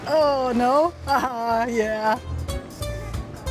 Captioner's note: laughs